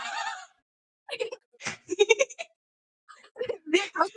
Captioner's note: giggling and laughing